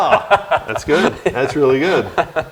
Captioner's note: laughs